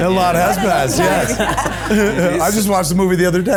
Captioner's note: cast laughs